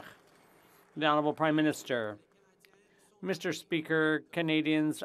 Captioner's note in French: applaudissements